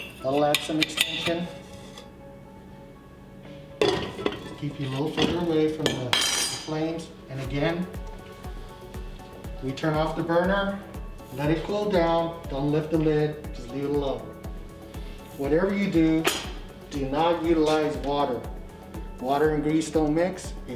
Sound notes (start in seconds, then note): 3.8 utensils clatter